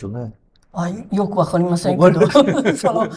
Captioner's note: laughs